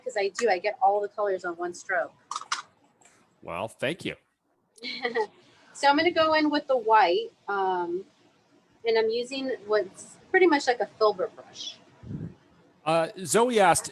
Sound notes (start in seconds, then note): 4.8 chuckles